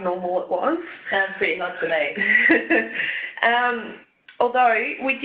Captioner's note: laughs